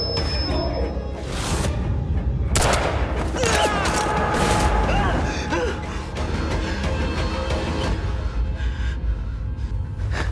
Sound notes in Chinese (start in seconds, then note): 3.4 慘叫聲